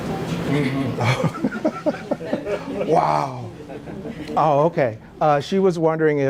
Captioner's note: laugh